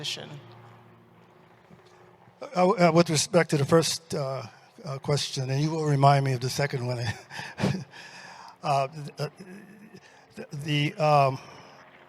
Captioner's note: chuckles